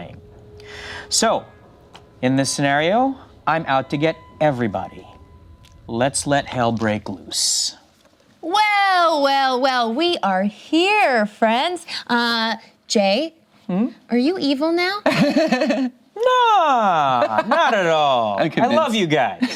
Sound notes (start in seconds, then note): 15.1 laughs